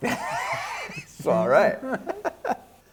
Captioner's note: laughs